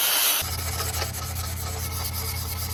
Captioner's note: circular saw saws loudly; sandpaper rhythmically rasps